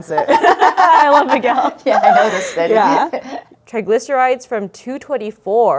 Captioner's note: laughing